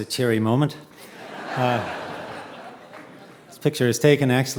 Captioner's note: audience laughing